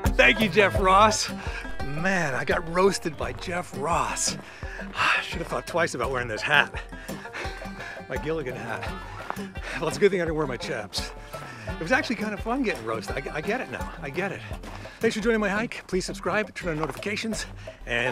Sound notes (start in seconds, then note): 4.4 sighs